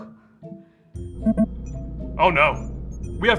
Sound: screen beeping

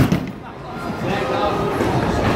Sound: bowling noises

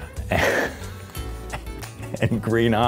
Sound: laughing

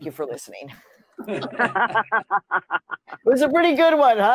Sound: laughter

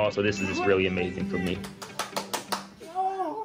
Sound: clapping

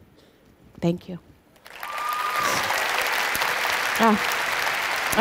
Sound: applause

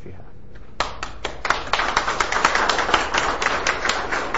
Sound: audience applauding

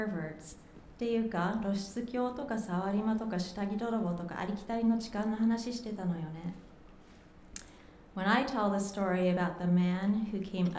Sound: speaking japanese

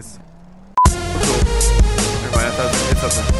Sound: beep

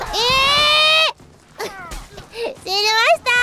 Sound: sob

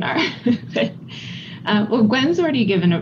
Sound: chuckles

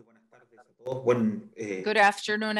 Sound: speaking foreign language

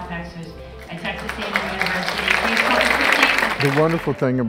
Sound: applause

